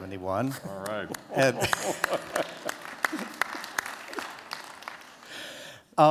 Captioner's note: applause